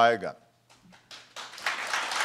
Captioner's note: applause